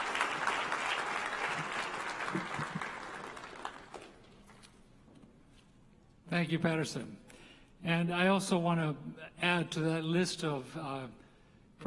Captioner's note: applause